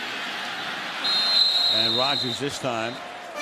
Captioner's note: whistles